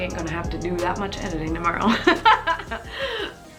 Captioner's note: laughs